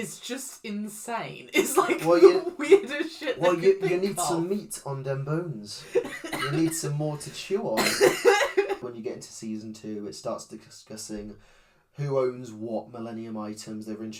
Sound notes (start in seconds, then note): 7.7 cough laugh